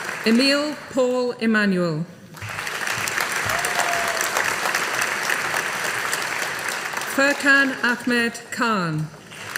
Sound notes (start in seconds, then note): 2.3 audience applauding; 9.2 audience applauding